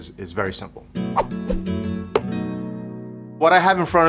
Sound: rhythmic music; air whooshing

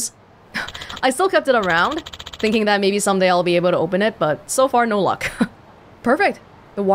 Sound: exhales

